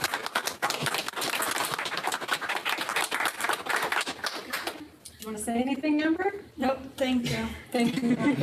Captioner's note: applause